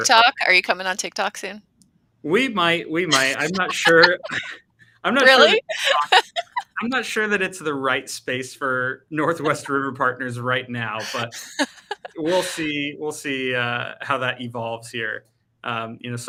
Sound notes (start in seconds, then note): 3.1 laughing